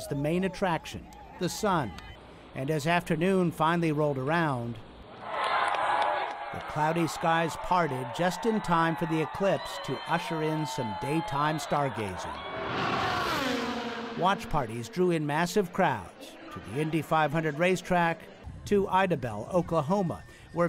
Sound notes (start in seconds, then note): 6.4 cheering and applause